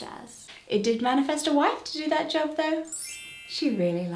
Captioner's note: smile star ding!